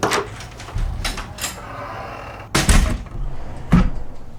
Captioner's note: door opens, closes